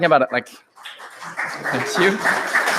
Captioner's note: applause